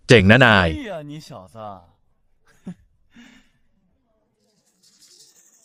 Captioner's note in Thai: เสียงหัวเราะ